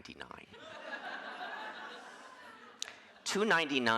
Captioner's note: audience laughing